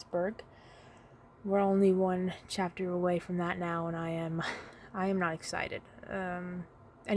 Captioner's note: sigh of helplessness